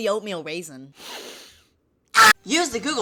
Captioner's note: deep inhale